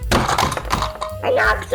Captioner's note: bonk!